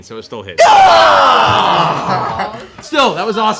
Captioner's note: dismayed shouting